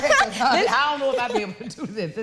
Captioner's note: chuckling